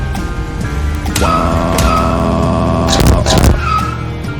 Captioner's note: screaming